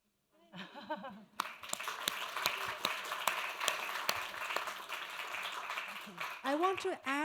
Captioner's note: applause